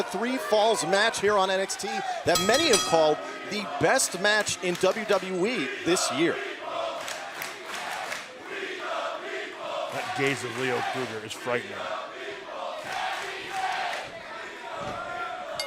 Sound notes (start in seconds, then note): 4.7 crowd cheering